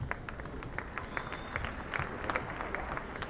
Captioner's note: applause